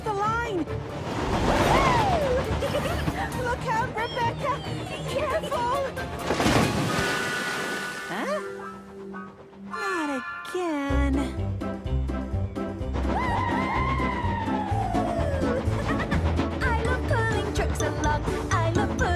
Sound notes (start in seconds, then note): 1.7 Rebecca Cheers and Laughs Happily; 6.1 water Splashes; 13.2 Rebecca Cheers and Giggles